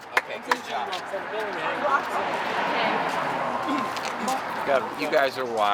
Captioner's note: group chattering